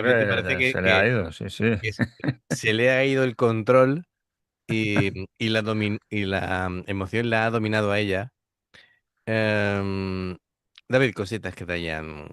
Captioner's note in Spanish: risas